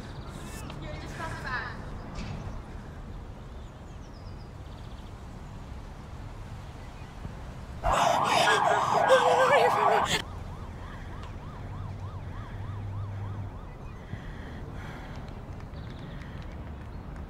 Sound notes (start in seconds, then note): 7.8 whimpering; 7.8 sirens